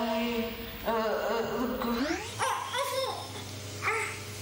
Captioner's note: sped up speech